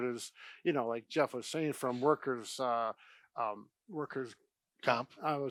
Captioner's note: stammers